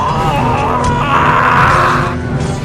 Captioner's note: screams of the damned